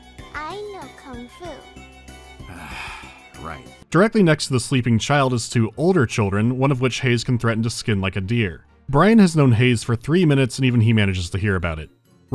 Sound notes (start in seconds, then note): 2.4 sigh